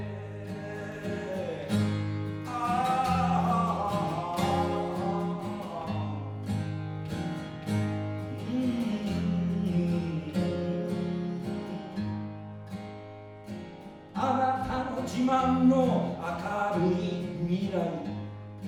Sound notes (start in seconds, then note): 2.4 humming